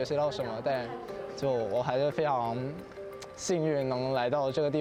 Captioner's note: speaking Chinese